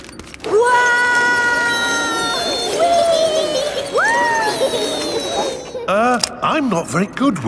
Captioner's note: all yelling